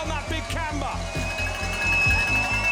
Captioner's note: cheering